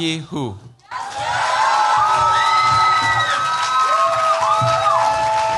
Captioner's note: cheers, applause